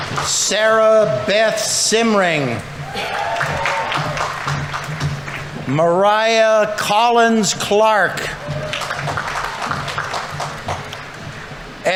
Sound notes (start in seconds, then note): 0.0 audience applauding; 2.7 audience members cheering; 2.8 audience applauding; 7.8 audience members cheering; 8.1 audience applauding